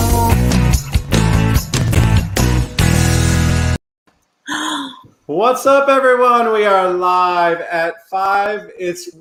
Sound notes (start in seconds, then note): 0.0 upbeat music; 4.4 gasps